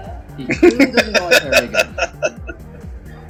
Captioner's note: laughing